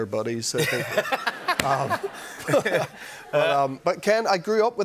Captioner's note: laughter